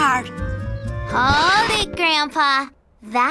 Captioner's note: record scratching